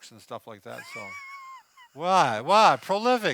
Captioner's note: laughs